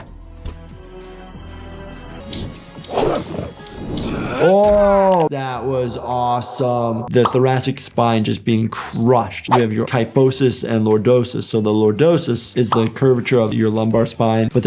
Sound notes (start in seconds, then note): 0.1 swooshing sound; 3.3 slam, crunch